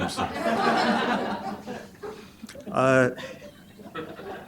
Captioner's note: laughter